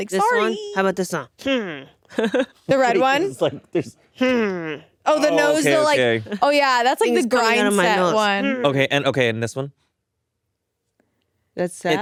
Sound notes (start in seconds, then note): 1.7 Atsuko groans and laughs; 5.1 Atsuko groans; 8.0 groans